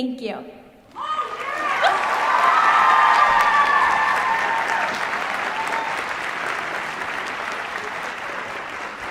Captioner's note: cheers, applause